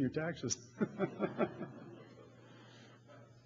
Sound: laughter

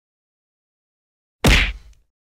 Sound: punch

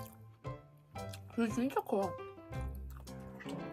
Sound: still eating

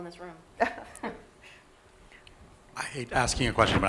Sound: laughter

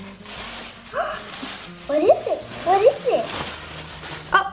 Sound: gasp

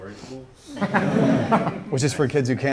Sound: group laughs

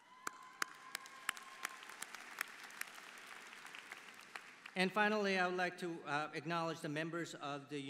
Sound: applause

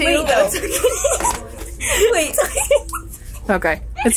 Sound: girls laugh

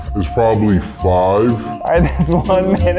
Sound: distorted and slow; laughing

